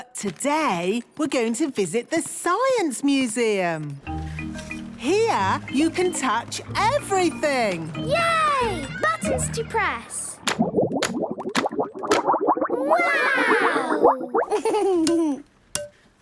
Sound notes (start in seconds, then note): 10.4 bubbling